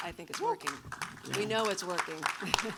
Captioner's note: audience applauds